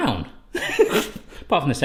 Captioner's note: laughing